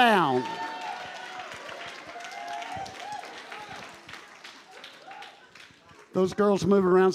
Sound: congregation applauding

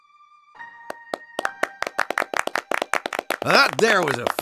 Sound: applause starts

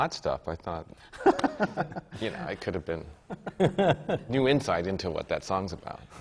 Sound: laughs

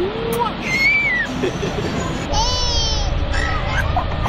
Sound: baby squeals

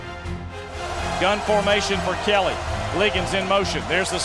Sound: voiceover

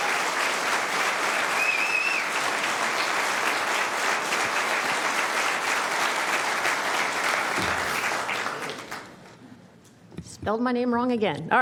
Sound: applause

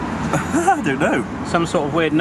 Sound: laughs

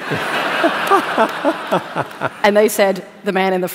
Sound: laughter

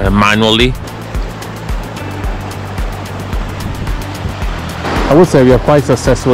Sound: water flowing

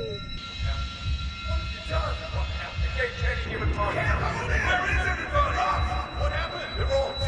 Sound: continued distressed voices inside Ross' head

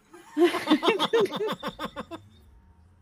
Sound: all laugh

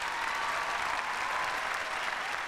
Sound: cheers and applause

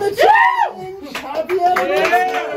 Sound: man screaming excitedly; clapping

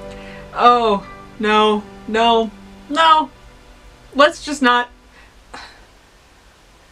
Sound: sigh

